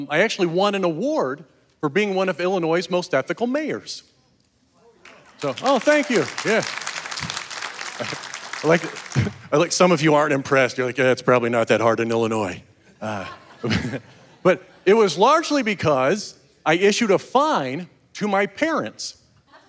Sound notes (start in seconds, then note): 5.0 audience clapping; 7.3 chuckles; 13.1 audience laughing; 13.4 chuckles